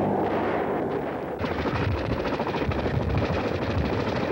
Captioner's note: heavy gunfire